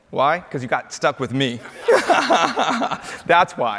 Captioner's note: laughs